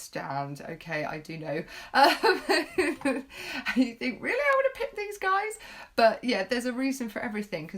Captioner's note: laughing